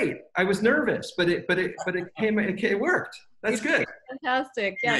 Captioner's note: laughing